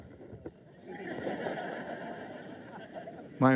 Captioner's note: crowd laughs